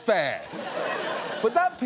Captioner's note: audience laughs